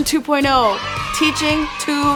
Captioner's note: children cheering